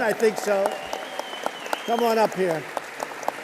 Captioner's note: applause